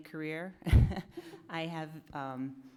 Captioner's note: chuckles softly